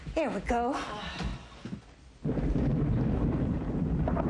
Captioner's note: thunder